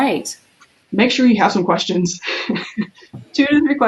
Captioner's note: laughs